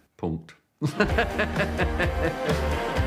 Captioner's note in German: Lachen